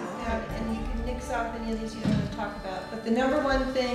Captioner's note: people chattering